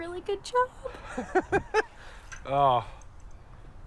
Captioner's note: laughs